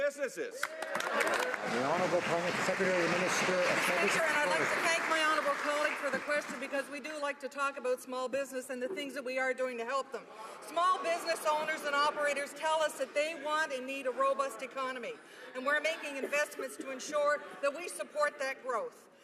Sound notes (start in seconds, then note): 3.6 some Applause